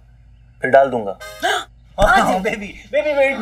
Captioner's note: Gasps